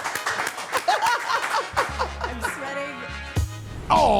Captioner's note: Steph and Elyse applauding; Stephanie laughing